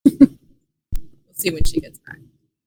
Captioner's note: giggles